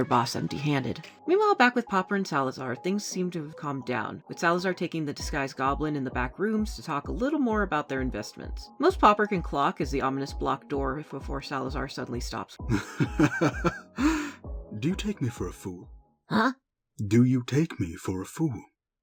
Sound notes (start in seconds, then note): 12.7 chuckling